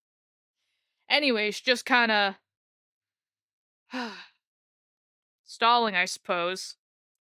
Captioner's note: sigh